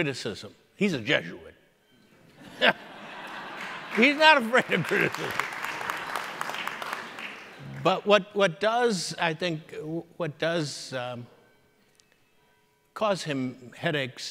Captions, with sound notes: He's a Jesuit. He's not a afraid of criticism. (audience applauding) But what does I think, what does cause him headaches is